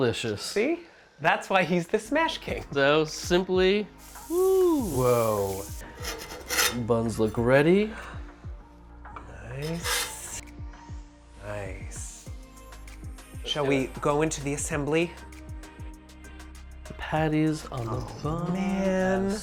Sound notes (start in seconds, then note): 5.7 pan scraping; 15.0 bright music